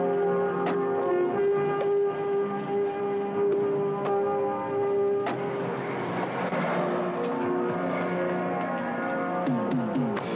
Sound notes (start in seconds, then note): 0.5 doors clatter